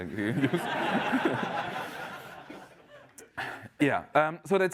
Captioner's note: laughter